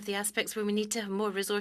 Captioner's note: speaking French